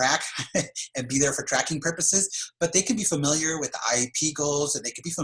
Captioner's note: laugh